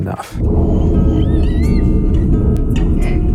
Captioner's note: whining